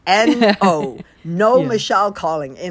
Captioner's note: laughter